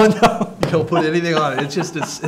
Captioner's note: laughs